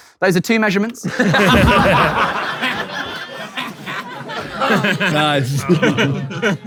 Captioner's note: people in room laughing